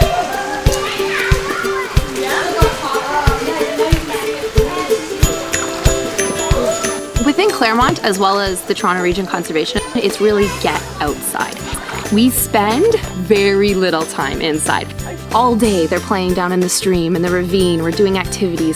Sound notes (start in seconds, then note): 0.3 upbeat acoustic music; 2.1 kids talking in the background